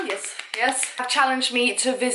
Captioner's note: claps